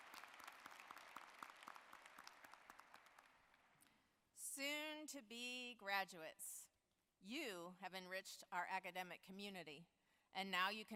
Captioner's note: applause